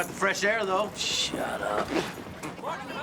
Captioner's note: none